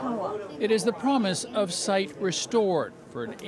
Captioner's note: speaking chinese